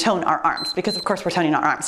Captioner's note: timer beeps